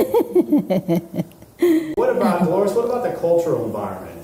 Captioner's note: giggling